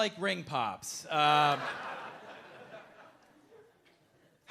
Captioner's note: audience laughing